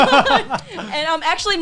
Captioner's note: laughing